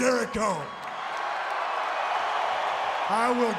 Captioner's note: crowd cheering